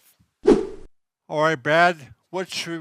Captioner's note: air whooshing